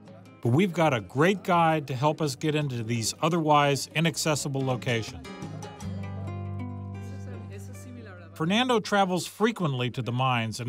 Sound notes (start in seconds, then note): 6.8 speaking Spanish